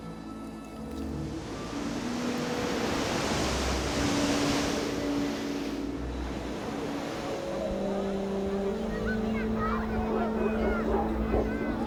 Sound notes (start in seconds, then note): 1.1 waves crashing; 8.4 people chattering